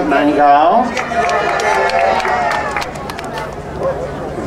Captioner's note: crowd cheering